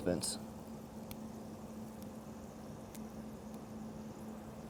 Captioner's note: stems snapping